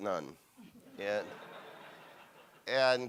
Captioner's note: audience laughs